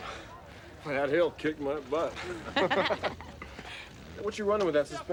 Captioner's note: laughing